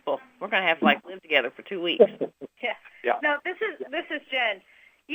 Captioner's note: laughter